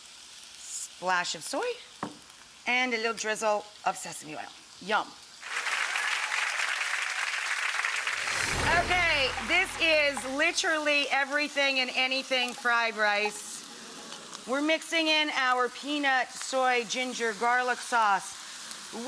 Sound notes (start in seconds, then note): 5.4 applause